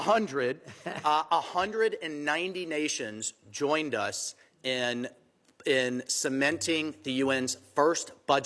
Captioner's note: laughter